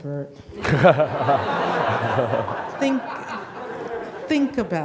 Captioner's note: audience laughing